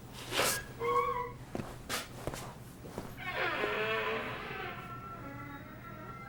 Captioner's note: door squeaks; ominous music